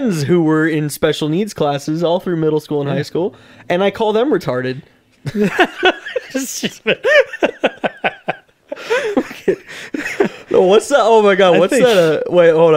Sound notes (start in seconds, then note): 5.2 start laughing; 5.2 laughing continues